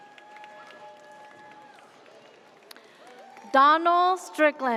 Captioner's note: audience cheers